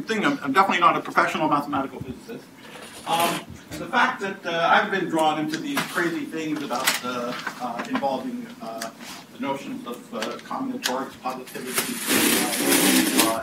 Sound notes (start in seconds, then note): 12.1 buzzing